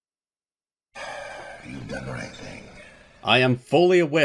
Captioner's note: sigh* "You've done the right thing."